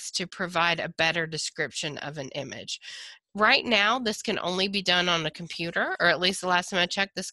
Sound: none

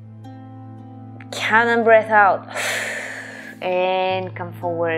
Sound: exhaling

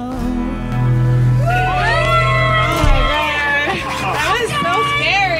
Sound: cheers and applause

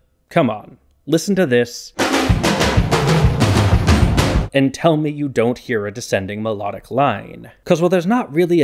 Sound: bang

